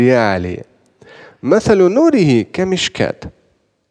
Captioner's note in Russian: Говорит на арабском